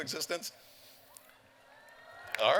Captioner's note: cheers